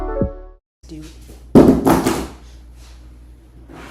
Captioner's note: outro music plays; sound of my phone dropping loudly